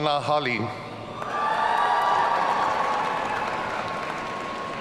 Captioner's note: audience cheering